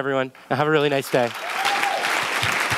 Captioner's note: clapping